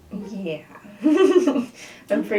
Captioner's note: laughter